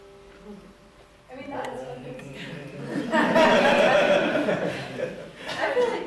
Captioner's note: laughter